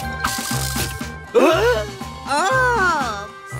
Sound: both gasp

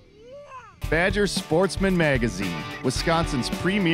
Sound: voiceover

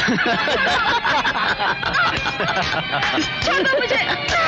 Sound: laughing

